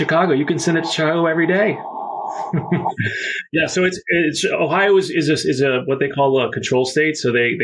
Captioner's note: laughs